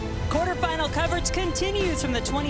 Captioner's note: voiceover